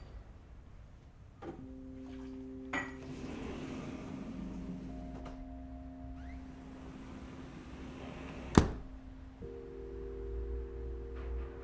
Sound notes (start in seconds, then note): 6.1 sliding door opening and closing; 9.5 gentle piano music plays